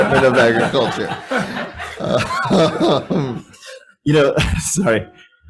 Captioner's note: all laughing